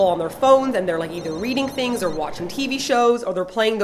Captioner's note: phone ringing